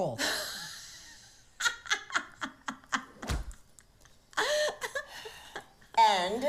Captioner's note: laughs